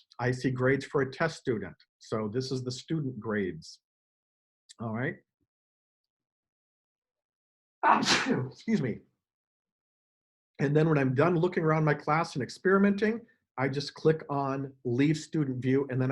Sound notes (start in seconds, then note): 7.8 sneezes